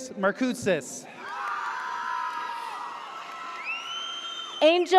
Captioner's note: audience cheers